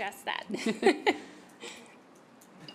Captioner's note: laughter